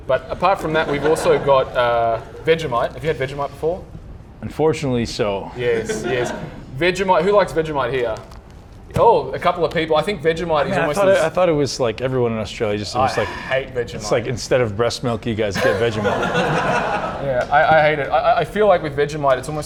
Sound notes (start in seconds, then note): 15.6 audience laughing